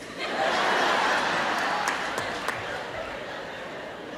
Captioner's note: audience laughs